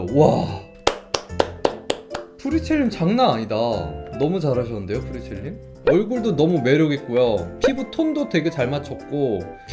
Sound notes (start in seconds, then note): 0.8 claps